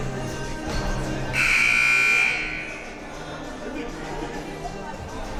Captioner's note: buzzer sounding